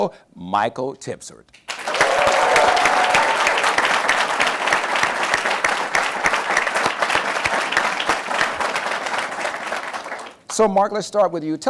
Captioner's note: applause